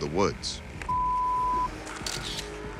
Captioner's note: camera shutter clicks